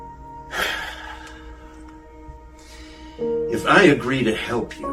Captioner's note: Roger sighs